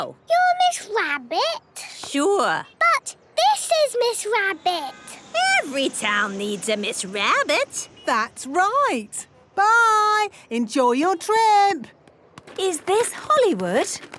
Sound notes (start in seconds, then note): none